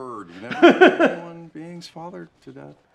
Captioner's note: laughs